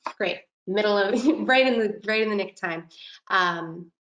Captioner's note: laughing